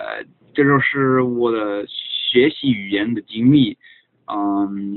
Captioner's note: in chinese